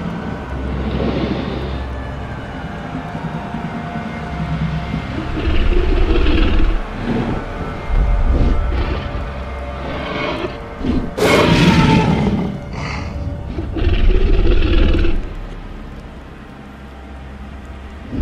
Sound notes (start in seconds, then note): 5.5 T-Rex Sounds